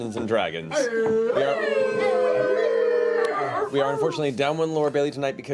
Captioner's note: howling